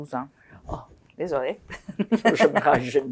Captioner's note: laughing